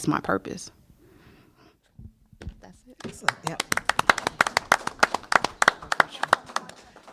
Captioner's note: applause